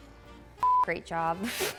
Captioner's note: electronic beeping